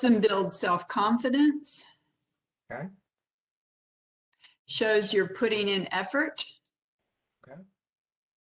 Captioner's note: professor speaking